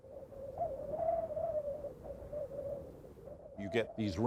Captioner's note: wind whistling